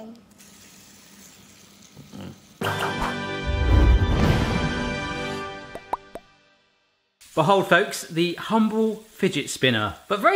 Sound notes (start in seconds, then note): 0.4 spinner whirring; 2.6 dramatic instrumental music